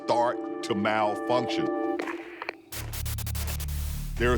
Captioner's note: radio static